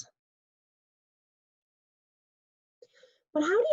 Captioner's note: pause